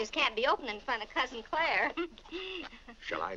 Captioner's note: chuckles